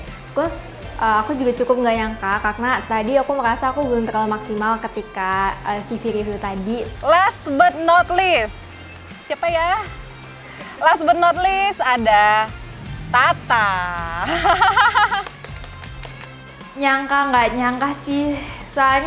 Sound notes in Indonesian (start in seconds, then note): 13.5 hand claps